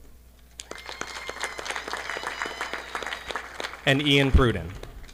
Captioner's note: audience applauding